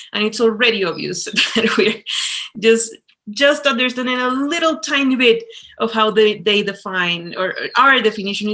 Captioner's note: chuckles